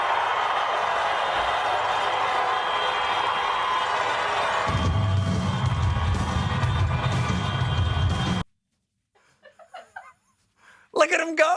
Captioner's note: cheers and applause